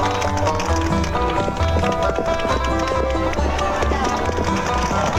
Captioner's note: horse hooves clopping